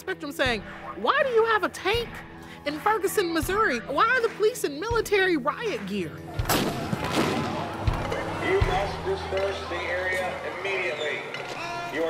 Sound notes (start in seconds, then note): 6.4 explosion bangs; 8.6 voiceover